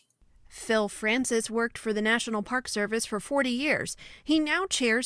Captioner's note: voice-over